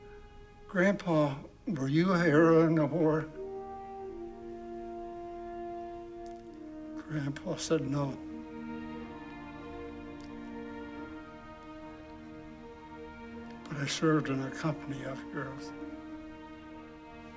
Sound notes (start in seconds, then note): none